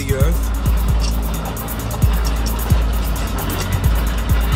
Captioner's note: bulldozer sound